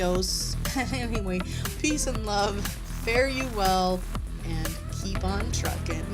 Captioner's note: giggles